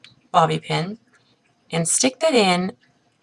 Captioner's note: pause